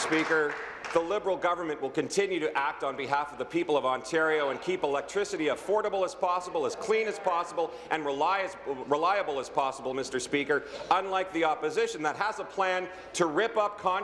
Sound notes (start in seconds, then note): 0.0 applause